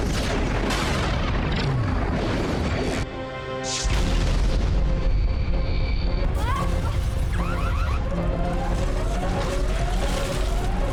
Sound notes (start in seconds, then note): 6.3 woman screams; 7.8 sirens wailing